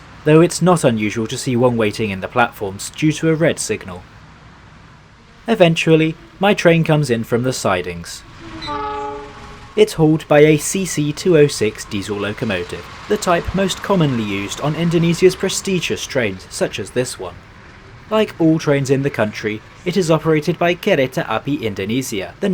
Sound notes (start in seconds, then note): 8.5 honk